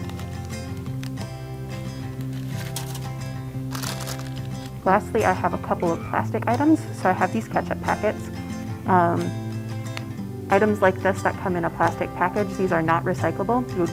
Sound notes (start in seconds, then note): 0.1 uplifting music; 3.6 wrapper crumples